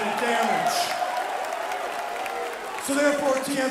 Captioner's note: crowd cheering